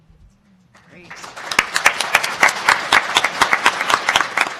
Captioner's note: applauding